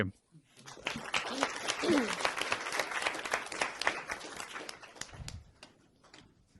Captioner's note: applause